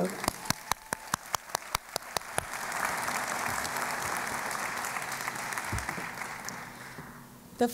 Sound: applause

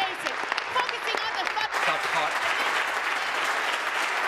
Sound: applause

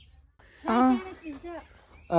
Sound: Arabic

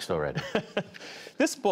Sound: laughter

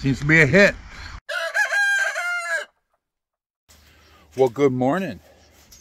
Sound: rooster crowing

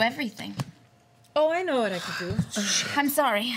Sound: sighs

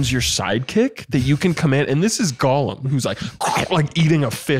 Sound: feral guzzling noise

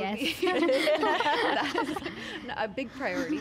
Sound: laughing

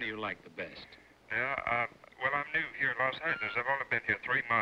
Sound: on phone

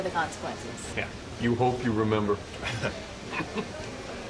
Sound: laughter

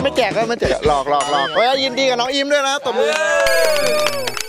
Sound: applauding

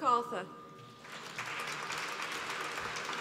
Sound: applause

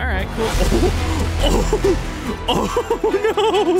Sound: laughter

